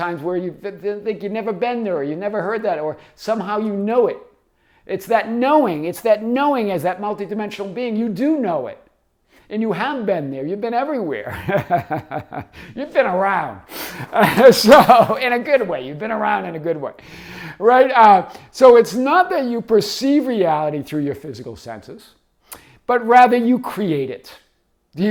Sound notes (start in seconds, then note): 11.2 laughs